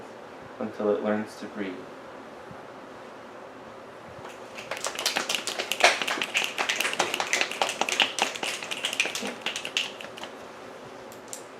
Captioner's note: snaps and applause